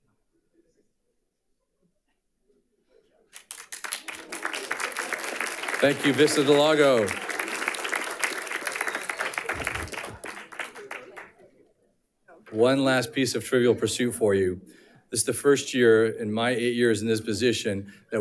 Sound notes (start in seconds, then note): 3.3 audience applauding